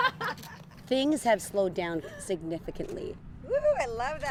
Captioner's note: laughter